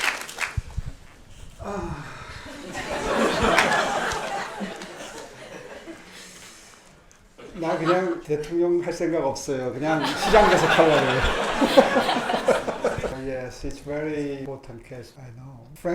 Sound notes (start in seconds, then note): 1.5 Mayor Oh sighing; 2.5 audience laughing; 7.8 everyone laughing